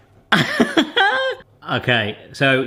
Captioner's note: laughing